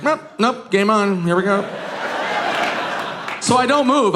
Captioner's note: audience laughing